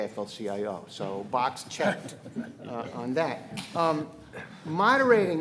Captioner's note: panelists laughing